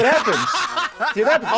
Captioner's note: laughing